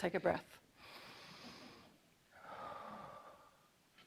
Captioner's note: inhales loudly